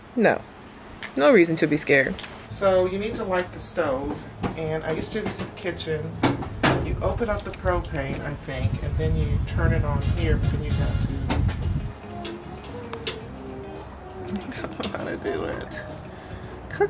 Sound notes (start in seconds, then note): 12.0 stove clanks; 14.2 chuckles